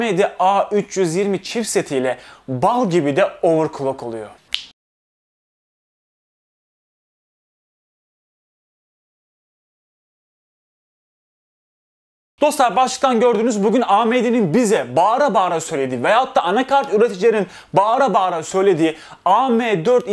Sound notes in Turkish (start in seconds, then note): 4.5 Parmak şıklatma sesi